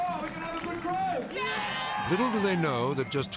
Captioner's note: audience cheering